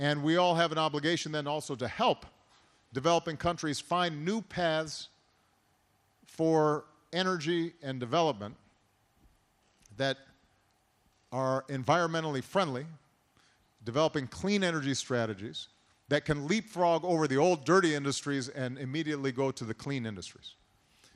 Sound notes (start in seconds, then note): none